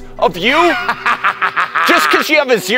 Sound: evil laugh

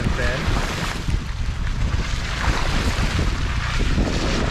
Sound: water splashing

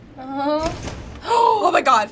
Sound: big switch clicks loudly; gasps

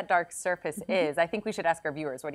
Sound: laughs

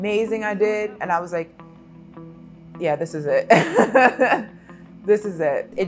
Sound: laughs

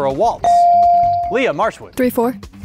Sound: beep

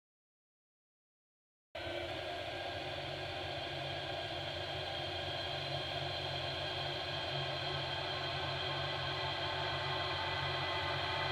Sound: sound of dark horror

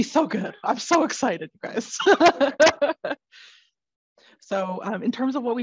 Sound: laughs

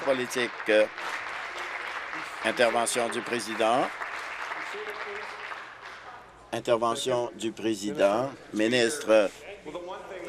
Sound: applause

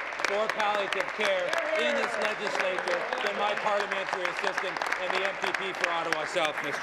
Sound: applause

